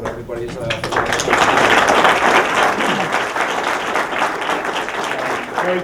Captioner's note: applause